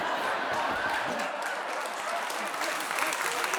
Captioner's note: audience cheers